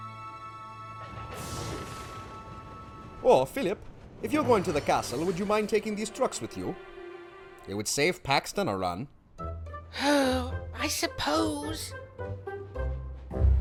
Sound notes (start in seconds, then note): 9.6 philip sighs